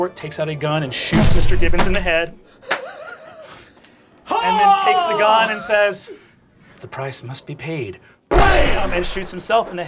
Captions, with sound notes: and shoots Mr. Gibbons in the head. (wheezing) (yells) And then takes the gun and says, the price must be paid, blam, and shoots himself in the head.